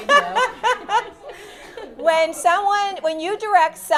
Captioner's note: laughter